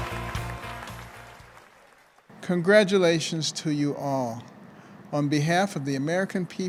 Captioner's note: applause